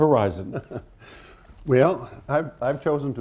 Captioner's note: laughs